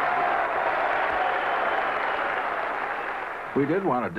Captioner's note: applause